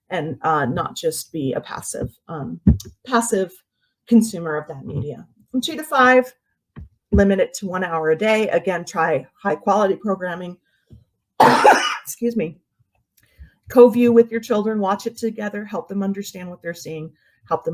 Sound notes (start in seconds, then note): 11.4 coughs